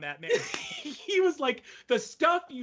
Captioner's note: laughing